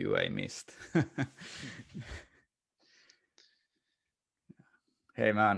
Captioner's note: laughing